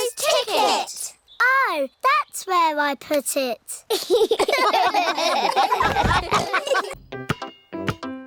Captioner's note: all laugh